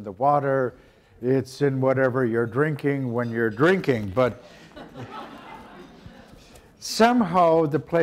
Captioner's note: audience laughter